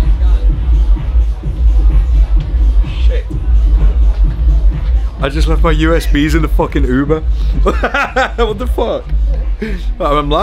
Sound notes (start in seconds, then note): 0.1 upbeat house music; 7.5 laughing